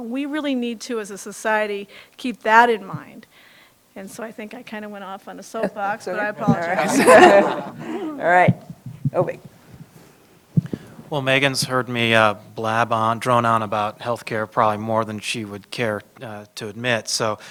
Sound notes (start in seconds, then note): 6.4 laughter